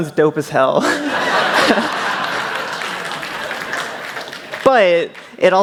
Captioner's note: laughter